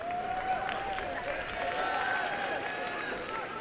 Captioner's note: applause and cheering